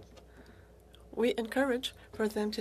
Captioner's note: speaking French